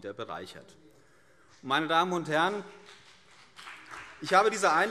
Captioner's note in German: Beifall CDU und BÜNDNIS 90/DIE GRÜNEN